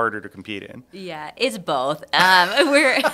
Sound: both laugh

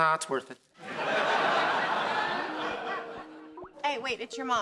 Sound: Skype ringtone playing

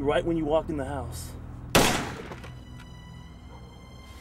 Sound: gun fires

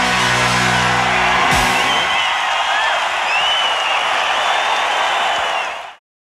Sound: crowd cheering

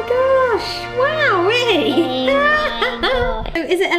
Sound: laughs

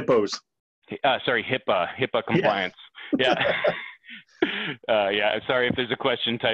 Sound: laughs

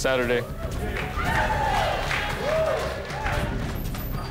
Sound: cheering and applause

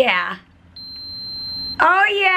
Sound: pump beeping

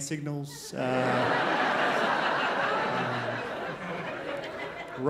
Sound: crowd laughs

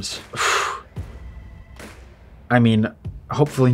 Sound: exhales

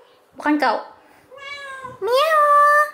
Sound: Cyclopes meowing

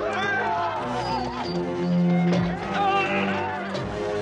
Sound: horse neighing; yelling

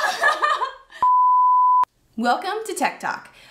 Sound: laughing; sine tone

